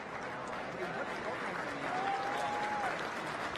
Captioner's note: crowd applauding